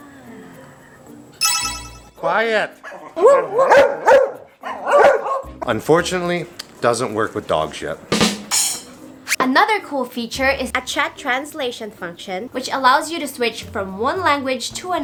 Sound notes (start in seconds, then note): 2.8 dogs barking